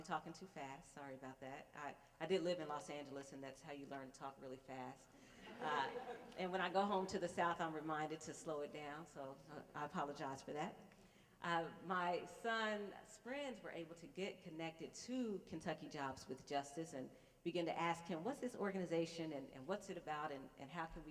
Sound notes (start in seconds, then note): 5.4 laughter